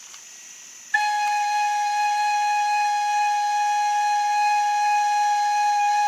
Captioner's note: high and loud whistle